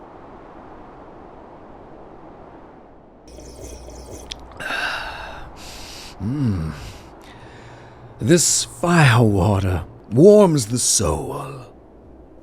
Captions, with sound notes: [Alferd sips] Ah! Mmmm... This fire water warms the soul.